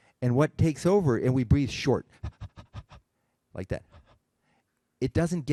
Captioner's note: exhales